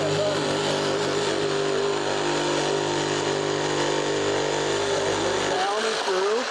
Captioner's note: saw whirring